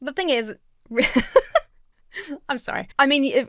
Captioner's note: laughs